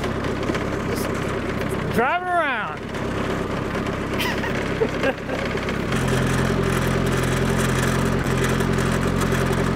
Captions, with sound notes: I'm driving around. (motor rumbling)